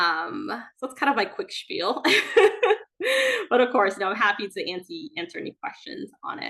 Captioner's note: laughs